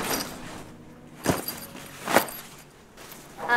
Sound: Duffle bag drops

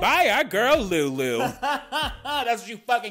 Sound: man laughing

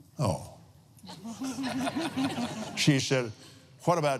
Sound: laughs

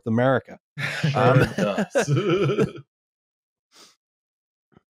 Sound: laughter

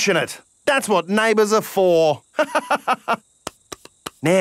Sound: laughs

